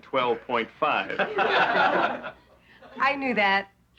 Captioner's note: laughing